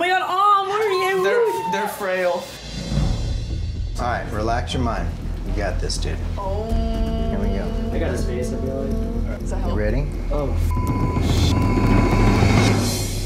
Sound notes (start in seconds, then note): 10.6 beep